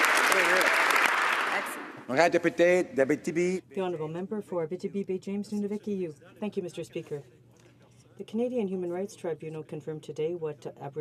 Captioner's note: some Applause